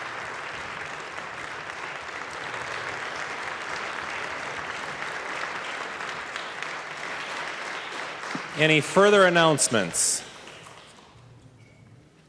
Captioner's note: applause